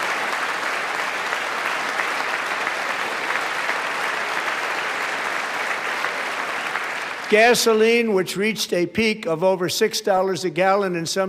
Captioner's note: applause